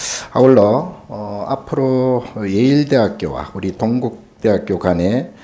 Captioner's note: speaking Korean